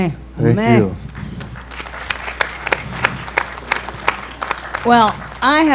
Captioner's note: applause